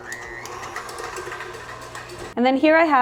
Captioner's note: mixer whirring